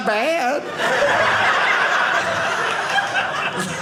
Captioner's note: audience laughing